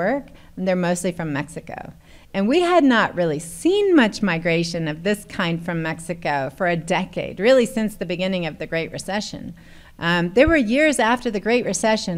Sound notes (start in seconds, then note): none